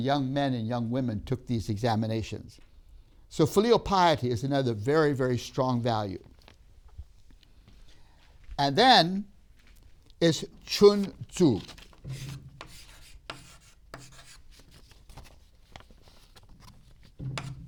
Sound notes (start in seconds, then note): 8.7 chalk scraping; 12.0 chalk tapping